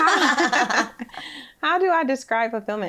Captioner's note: both laughing